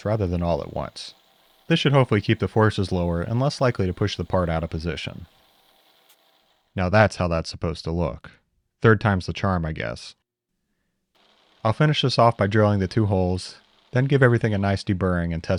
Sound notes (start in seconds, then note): 11.1 drill whirring